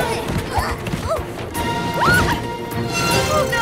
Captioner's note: screaming; metal screeching